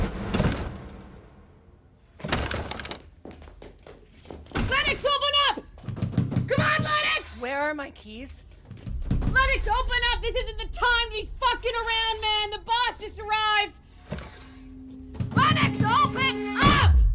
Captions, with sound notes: (door handle rattles) - Lennox, open up! Come on, Lennox! - Where are my keys? - Lennox, open up! This isn't the time to be fuckin' around, man! The boss just arrived! Lennox, open up!